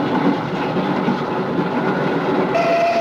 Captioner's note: train whistle